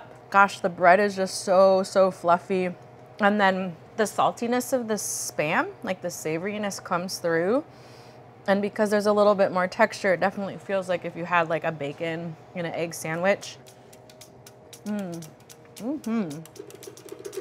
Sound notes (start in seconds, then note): 14.6 moans; 14.6 up-tempo jazzy music